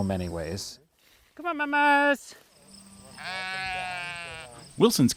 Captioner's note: sheep bleating